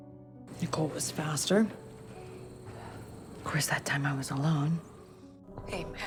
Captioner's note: voiceover